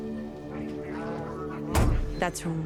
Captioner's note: bar goers chatter; door slams